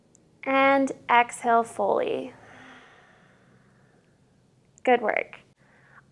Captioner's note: exhales